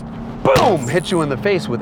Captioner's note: boom!